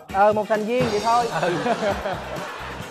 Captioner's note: laughing